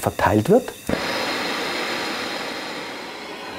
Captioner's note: hissing noises